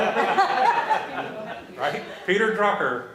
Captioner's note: laughter